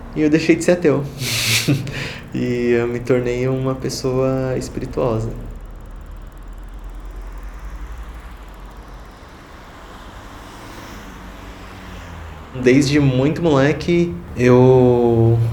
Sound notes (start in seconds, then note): 0.8 laughing; 5.7 bicycle noises; 9.8 car noises